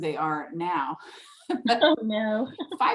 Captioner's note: laughing